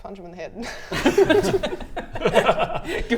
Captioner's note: encouraging laughter